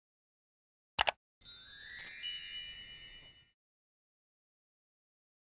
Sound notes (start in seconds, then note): 1.0 clicking; 1.4 fairy dust chiming